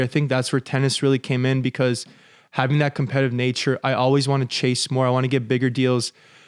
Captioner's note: none